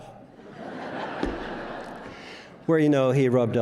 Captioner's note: audience laughs